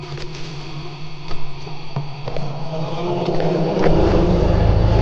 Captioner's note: dinosaur growling continues; drumbeat music continues